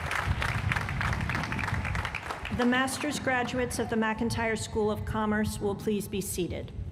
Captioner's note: applause